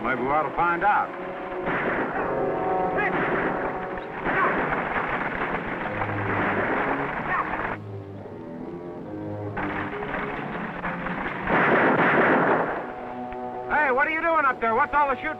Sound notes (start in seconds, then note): 0.9 gunshots